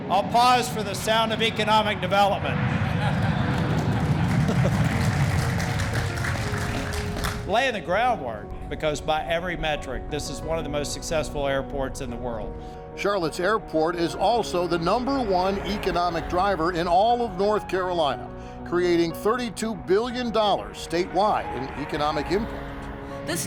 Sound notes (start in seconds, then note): 2.7 plane engine roaring; 3.0 audience applauding